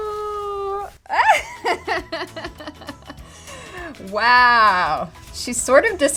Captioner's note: laugh